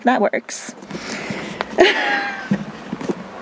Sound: laugh

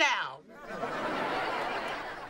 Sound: laughing

